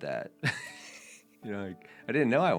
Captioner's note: chuckling